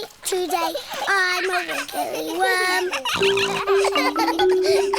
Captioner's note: all laughing; snorts